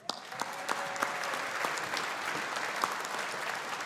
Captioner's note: audience applauding